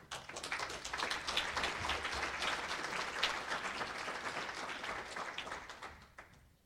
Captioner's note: applause